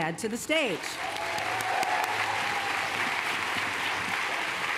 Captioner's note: applause